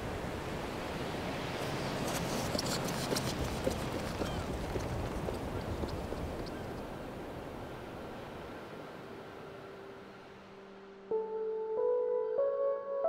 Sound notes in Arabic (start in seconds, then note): 0.9 خطوات تهرب; 9.5 موسيقى البيانو اللطيفة